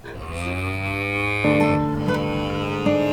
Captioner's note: cows moo; peaceful music